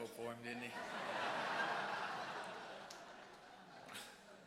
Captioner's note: audience laughs